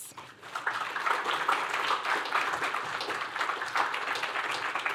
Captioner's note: applause